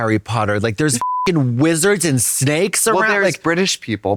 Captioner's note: beep